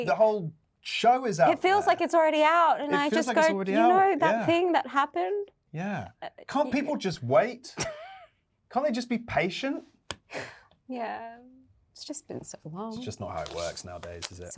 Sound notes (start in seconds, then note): 7.7 Yerin laughing; 10.3 Yerin sighs